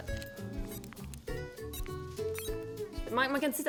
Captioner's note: bleeping sound